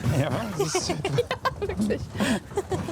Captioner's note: laughs